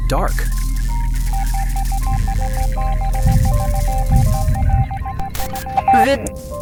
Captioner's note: rapid ticking with faint electric sparking